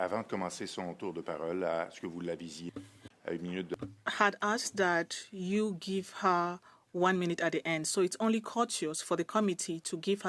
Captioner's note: speaking French